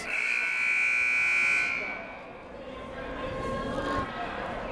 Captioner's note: siren buzzing